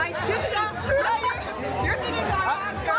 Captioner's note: speaking French